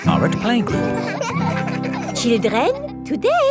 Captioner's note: children laughing